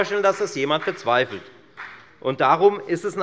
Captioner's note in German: Beifall bei der FDP